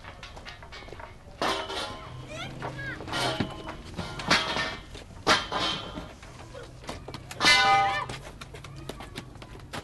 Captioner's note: construction noise